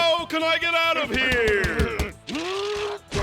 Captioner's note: grunting